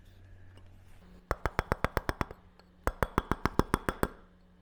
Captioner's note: metal hammering